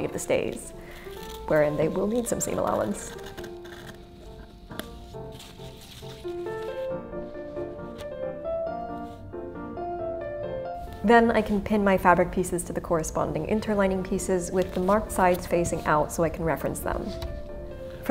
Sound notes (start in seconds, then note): 3.2 classical music; 3.2 scissors grating